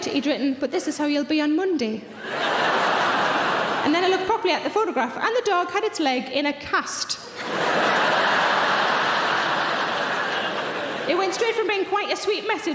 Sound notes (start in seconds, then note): 7.3 audience laughing